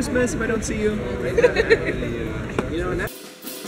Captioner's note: laughs; outro music